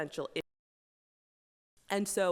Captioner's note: audio cuts out